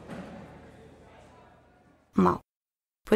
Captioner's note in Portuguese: Silêncio